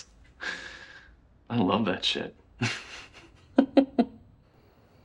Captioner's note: laughs